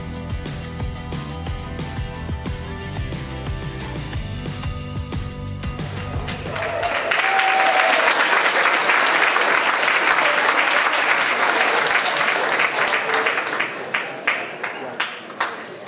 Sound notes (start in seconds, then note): 7.1 audience applauds